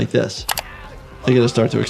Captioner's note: screen clicking